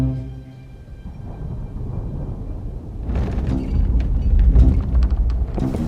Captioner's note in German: Donnern, Wind heult